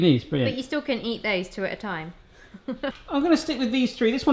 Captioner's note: laughs